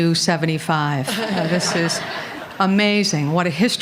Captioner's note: laughter